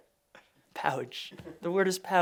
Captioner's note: laughing